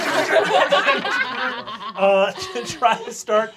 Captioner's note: they laugh